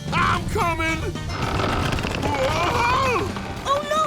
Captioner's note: creaking